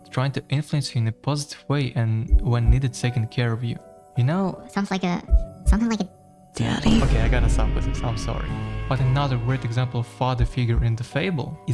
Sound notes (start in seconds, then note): none